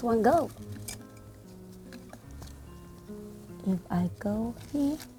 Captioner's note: rustling